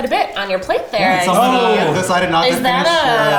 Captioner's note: group chattering